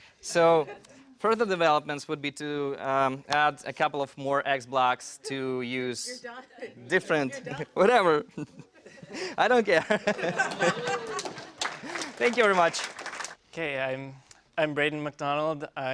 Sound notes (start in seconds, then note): 11.4 laugh; 12.2 applause